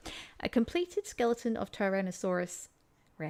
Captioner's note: reading text out loud